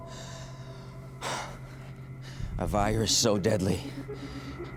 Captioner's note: exhales deeply